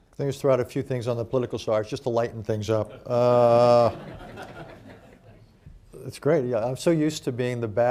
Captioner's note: laughter